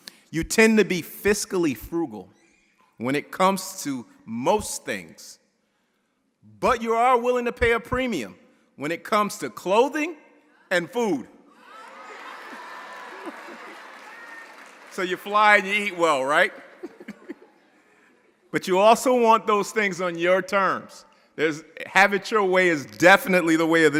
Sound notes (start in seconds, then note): 11.7 audience applauding; 11.9 audience laughing; 16.6 chuckles